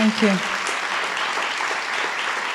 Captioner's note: applause